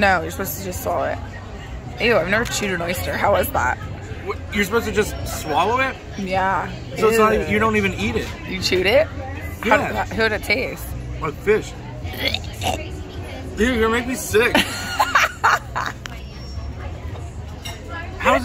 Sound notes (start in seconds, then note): 12.3 gags; 14.5 laughs